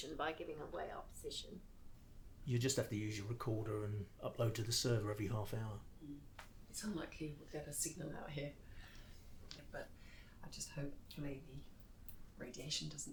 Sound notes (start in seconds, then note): none